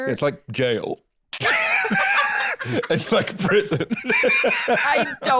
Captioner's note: laughing; laughs